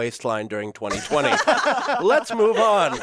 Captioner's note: all laughing